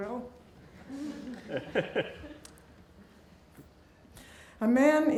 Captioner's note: laughing